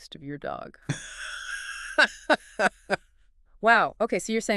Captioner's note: laughs